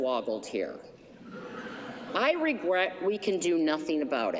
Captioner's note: laughter